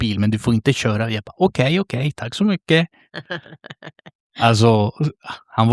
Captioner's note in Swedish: skratt